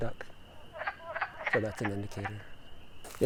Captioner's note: duck-like frog noises